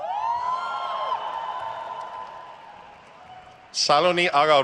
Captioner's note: crowd cheers